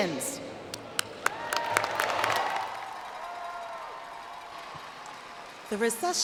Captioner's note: applause